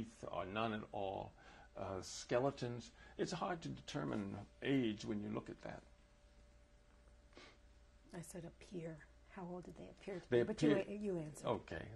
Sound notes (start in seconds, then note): none